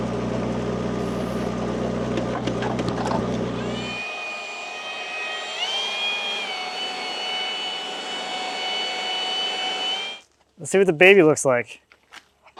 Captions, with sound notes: (blower whining) Let's see what the baby looks like.